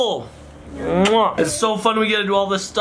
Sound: lips smack

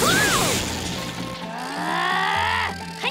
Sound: growling

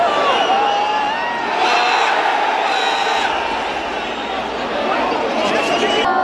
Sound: clap

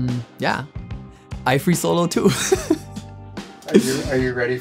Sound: laughing

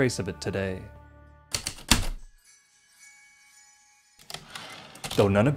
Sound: heavy typewriter keystrokes, light chimes typewriter return slide

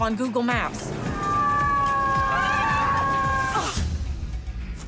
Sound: screaming

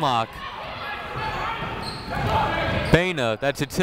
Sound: people shouting in the crowd

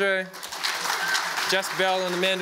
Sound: audience applauds

